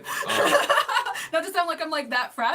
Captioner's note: laughing